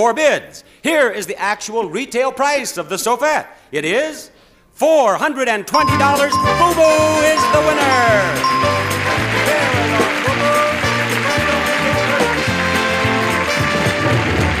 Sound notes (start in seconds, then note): 5.3 upbeat music; 5.7 bell chiming; 7.9 audience clapping; 10.9 upbeat music continues